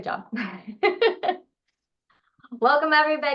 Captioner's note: laughs